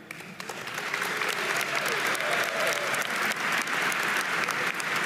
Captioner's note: audience applauding